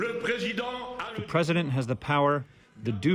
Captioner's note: through translator